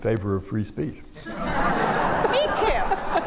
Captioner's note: laughter